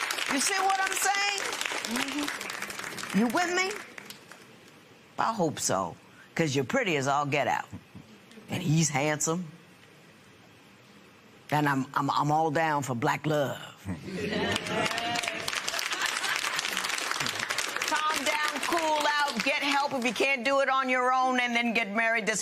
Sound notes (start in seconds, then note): 0.0 applause; 14.4 applause; 15.6 chuckles